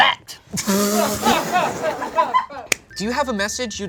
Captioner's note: group laughs